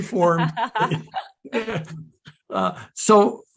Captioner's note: laughing